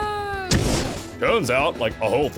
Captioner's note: fwoosh